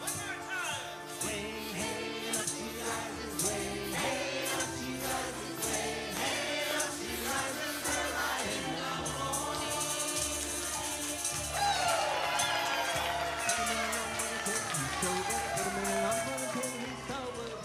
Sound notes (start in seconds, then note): 10.4 audience applauding; 11.4 audience cheering